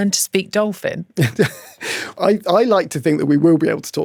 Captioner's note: chuckles